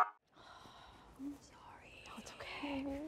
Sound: everyone whispering

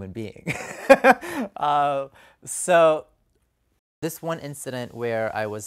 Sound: laughter

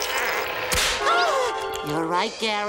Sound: gasping

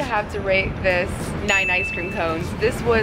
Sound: dings

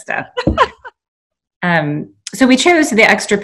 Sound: laughing

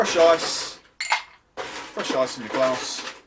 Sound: clinks

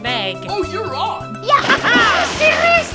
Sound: splashing, laughing

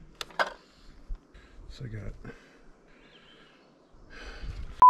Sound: sigh

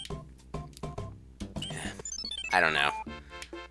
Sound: sigh

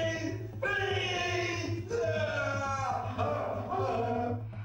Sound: groaning

